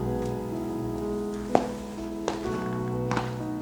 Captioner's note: foot steps